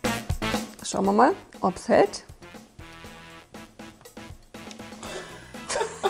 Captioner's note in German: lachen